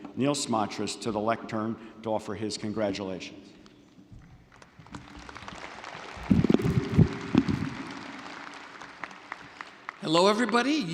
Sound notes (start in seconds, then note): 4.5 audience applauding